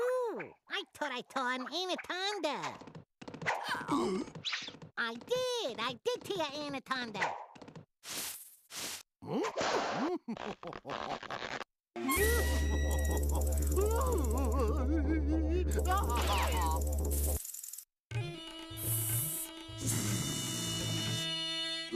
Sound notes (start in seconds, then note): 3.6 choking; 10.1 laughing; 13.9 crying; 15.9 rattling; 18.8 hissing